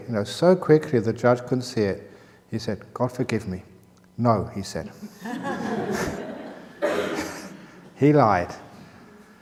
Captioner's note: laughter